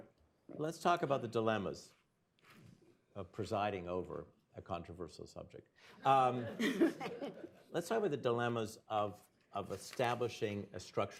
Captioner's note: laughter